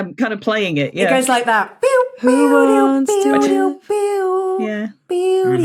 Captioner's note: imitates guitar riff